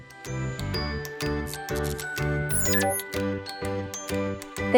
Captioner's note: blip